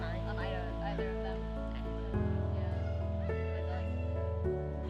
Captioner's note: overlapping chattering